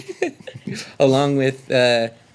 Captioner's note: laughing